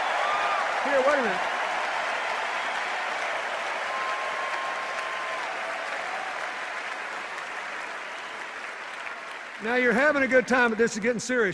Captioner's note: sustained cheers and applause